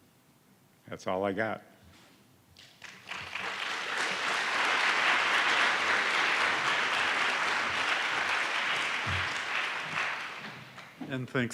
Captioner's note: applause